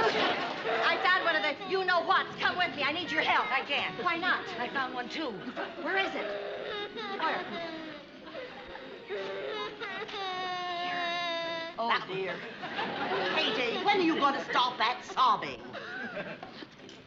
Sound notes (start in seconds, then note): 10.0 whispering